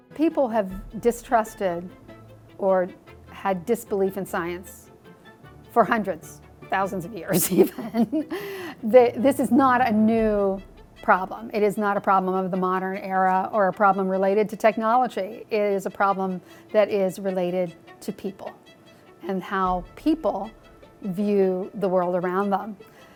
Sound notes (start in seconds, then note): 7.4 laughing